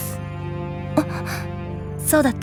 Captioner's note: gasp